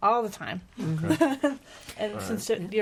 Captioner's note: laughing